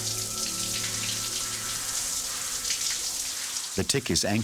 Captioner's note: water running